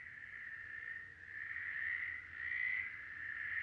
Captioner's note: frogs croaking